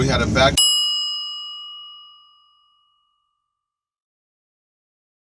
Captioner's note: bell dings